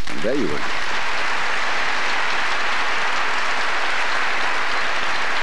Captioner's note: applause